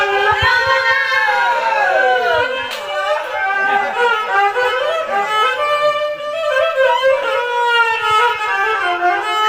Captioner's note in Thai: ปรบมือ